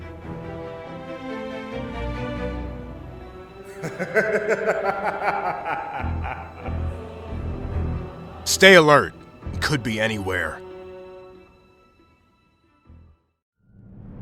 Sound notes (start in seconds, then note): 3.6 laughter